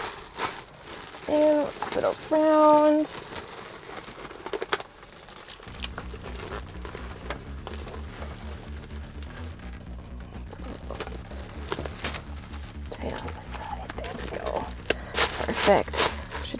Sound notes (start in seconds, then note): 3.6 bag crinkling; 6.1 soft music